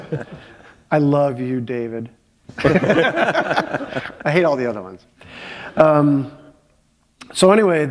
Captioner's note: chuckle